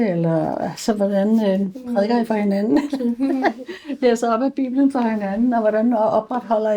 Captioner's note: laughs